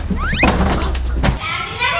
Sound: slipping

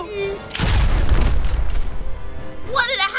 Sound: boom!

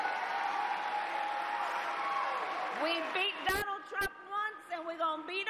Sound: cheers and applause

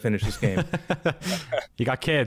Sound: laughs

